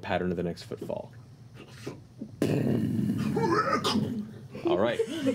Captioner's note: boom